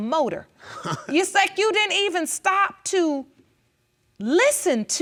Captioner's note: chuckles